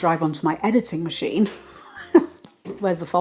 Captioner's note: laugh of disbelief